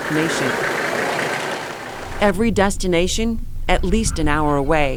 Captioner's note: car bumps